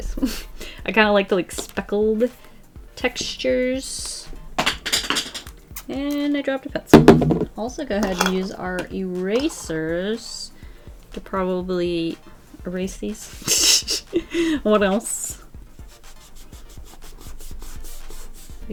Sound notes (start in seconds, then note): 4.6 pencil drops; 13.3 laughs